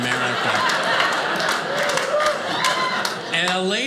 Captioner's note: audience laughing